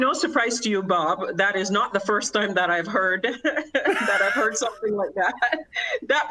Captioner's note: laughter